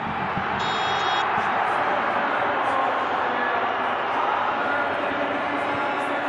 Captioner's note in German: Jubel